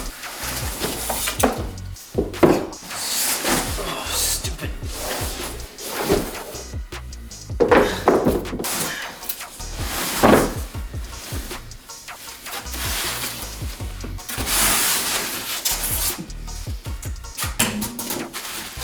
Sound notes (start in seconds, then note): 0.0 squeaking styrofoam; 3.7 exasperated sigh; 7.4 the sound of scraping shelf parts damaging each other